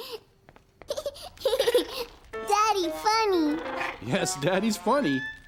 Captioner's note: giggles